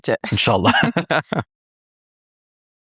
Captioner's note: both laughing